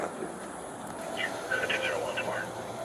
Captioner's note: radio chatter